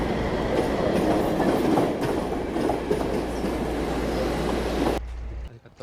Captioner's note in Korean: 괜히 정겨운 레일 소리